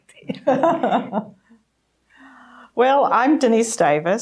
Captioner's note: laughing